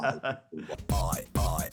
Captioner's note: laughing